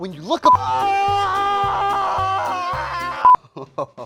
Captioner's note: screams